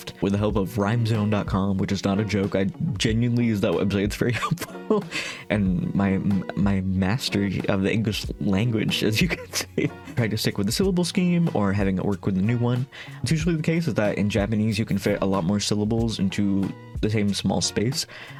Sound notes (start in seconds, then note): 4.4 laughing; 9.0 laughing